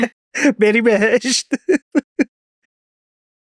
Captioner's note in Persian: خنده